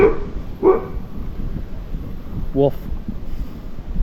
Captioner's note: dog in yard